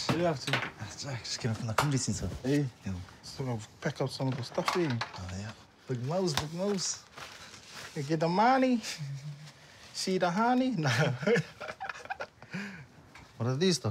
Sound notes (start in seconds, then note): 10.8 laughs